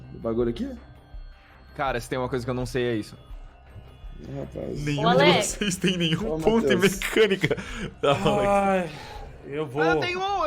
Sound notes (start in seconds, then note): 5.4 laughing; 8.8 sigh